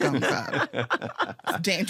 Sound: laughter

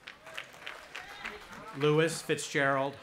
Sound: audience applauding

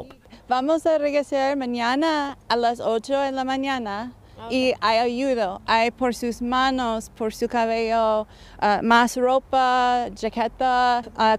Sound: speaking foreign language

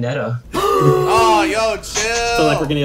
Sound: gasps

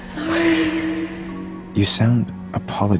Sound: static hisses; soft ethereal music; gasps

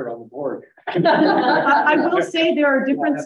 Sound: laughs

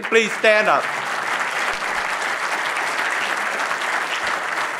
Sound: audience applauding

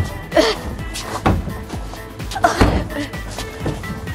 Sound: disgusted sound

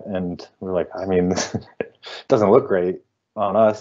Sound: chuckling

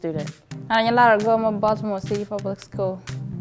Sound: speaking in foreign language

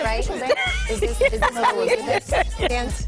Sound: laughter

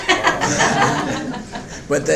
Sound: members of the audience laughing

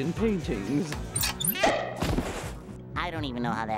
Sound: popping

